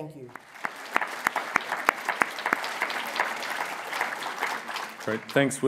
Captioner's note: applause